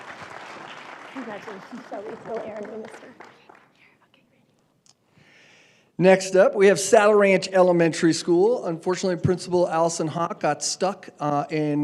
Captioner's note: applause